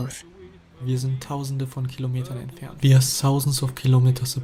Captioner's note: man speaking foreign language